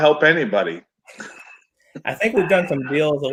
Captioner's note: chuckles